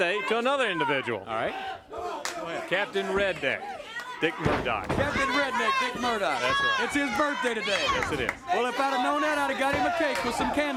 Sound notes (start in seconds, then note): 0.2 crowd cheering; 5.0 crowd cheering